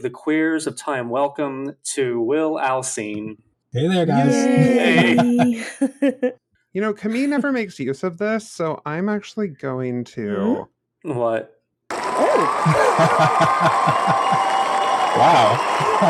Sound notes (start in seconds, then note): 11.9 studio applause track